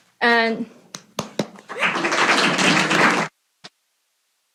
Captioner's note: applause